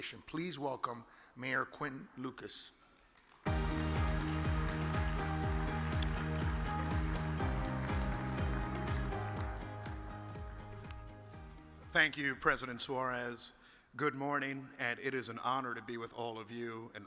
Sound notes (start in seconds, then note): 2.9 audience applause; 3.4 uplifting music